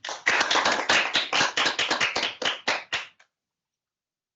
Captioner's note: applause